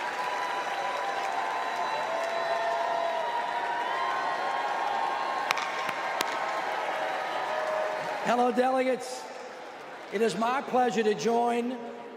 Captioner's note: applause